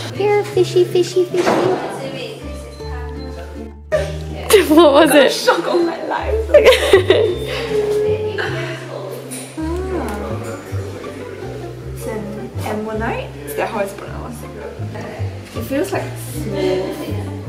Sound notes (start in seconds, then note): 3.9 giggles; 6.5 laughs